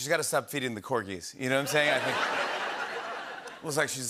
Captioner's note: laughter